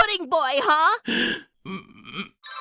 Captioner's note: yang gasps, holds in laugh